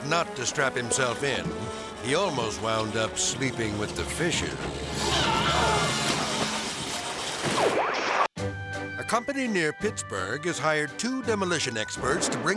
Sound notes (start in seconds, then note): 5.0 screaming; 5.2 dramatic music; 7.8 screen static